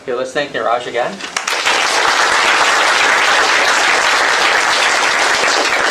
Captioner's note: applause